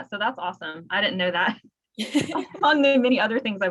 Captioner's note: laughs